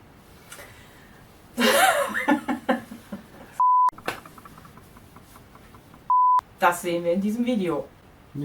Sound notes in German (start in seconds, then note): 0.7 lacht